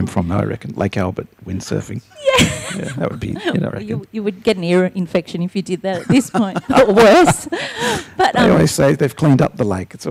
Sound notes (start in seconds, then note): 2.2 laughing; 5.9 laughs